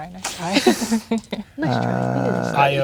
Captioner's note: laughing